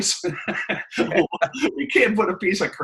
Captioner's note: laughing